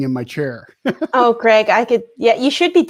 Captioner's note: laughs